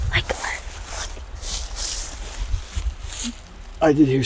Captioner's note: whispering